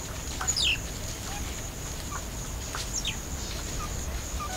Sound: mongoose noises

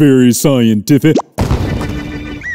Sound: poof

